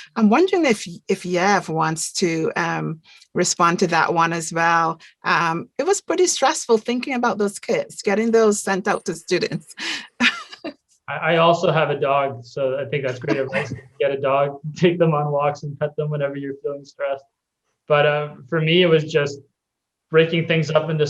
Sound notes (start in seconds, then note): 10.2 chuckling; 13.0 chuckling